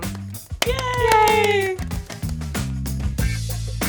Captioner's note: applause